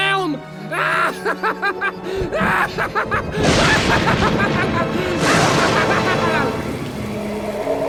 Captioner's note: Gaylord_Steambath laughs maniacally